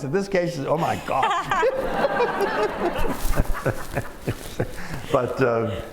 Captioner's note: laughter